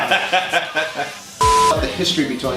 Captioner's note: laughs; beeps